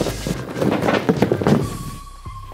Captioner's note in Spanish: Golpes amortiguados